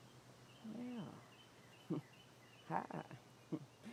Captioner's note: chuckles